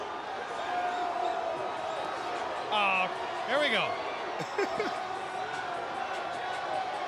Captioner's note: laughter